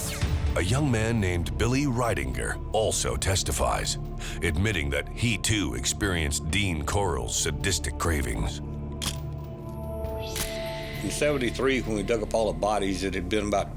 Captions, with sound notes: A YOUNG MAN NAMED BILLY RIDINGER ALSO TESTIFIES, ADMITTING THAT HE TOO EXPERIENCED DEAN CORLL'S SADISTIC CRAVINGS. (camera shuttle click) IN '73 WHEN WE DUG UP ALL THE BODIES